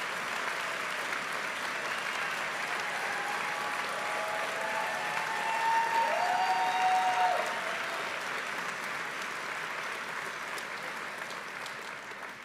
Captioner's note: cheering and applause